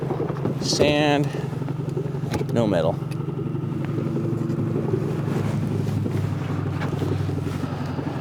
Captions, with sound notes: Sand, no metal. (motor burbling)